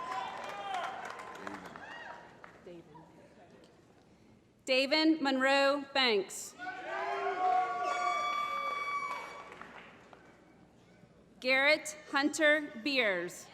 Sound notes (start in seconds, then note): 0.0 applause; 7.2 applause